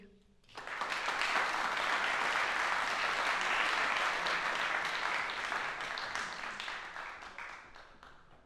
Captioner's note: applause